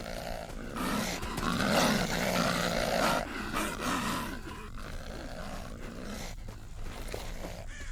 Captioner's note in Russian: Взвизгивания тушканов